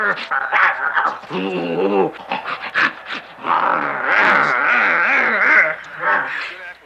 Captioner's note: snorting & roaring